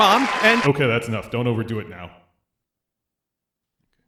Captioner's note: disembodied voice